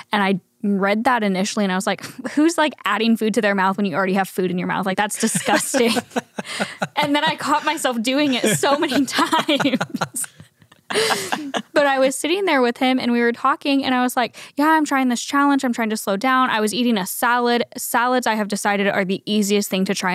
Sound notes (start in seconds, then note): 5.1 laughs